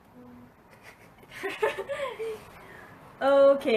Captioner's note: laughs